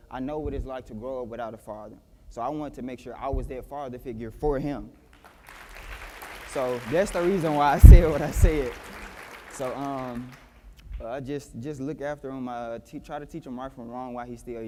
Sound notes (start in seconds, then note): 9.2 applause